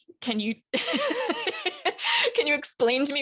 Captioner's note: laughs